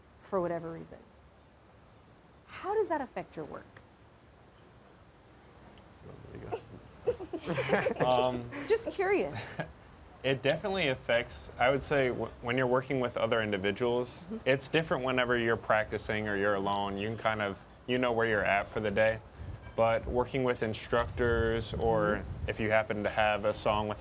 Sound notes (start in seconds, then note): 6.4 laughs